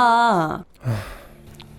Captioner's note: sigh